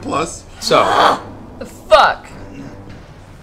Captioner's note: frustrated noise